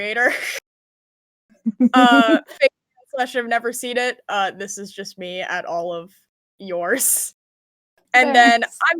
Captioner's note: laughs